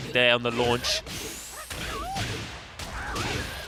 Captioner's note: game sounds